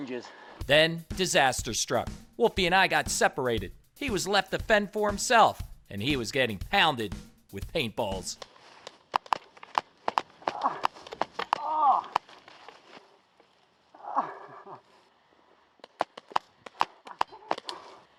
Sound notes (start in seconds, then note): 11.5 groaning